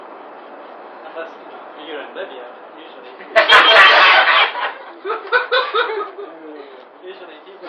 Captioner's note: gülüyorlar